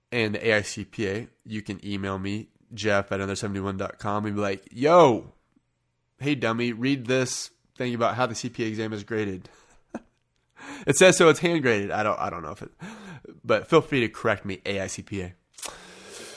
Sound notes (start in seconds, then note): 9.6 chuckling